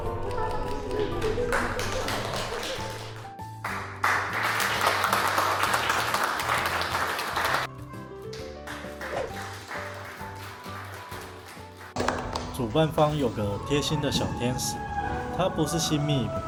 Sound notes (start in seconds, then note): 1.9 applause; 3.6 enthusiastic applause; 7.7 scattered applause